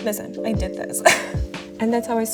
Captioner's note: laughs